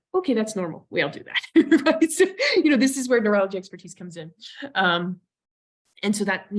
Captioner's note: laughs